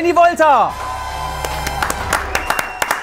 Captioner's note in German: Jubel, Applaus